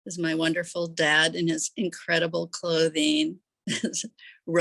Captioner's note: chuckles